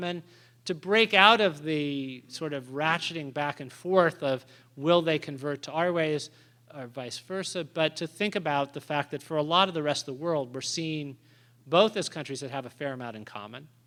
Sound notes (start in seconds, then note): none